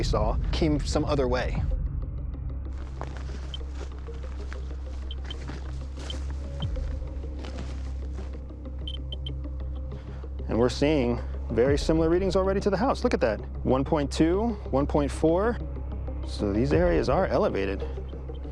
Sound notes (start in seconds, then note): 2.5 electronic chirping; 8.1 chirping continues